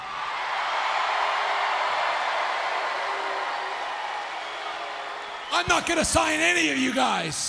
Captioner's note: applause